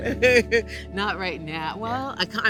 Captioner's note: laughing